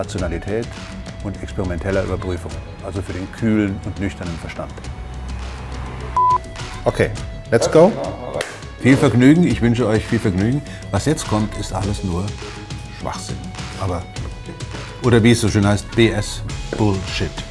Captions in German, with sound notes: Rationalität und experimentelle Überprüfung. Also für den kühlen und nüchternen Verstand. [Piepton] OK, let's go. [Klatschen] Viel Vergnügen. Ich wünsche euch viel Vergnügen. Was jetzt kommt, ist alles nur Schwachsinn, oder wie es so schön heißt, BS, Bullshit.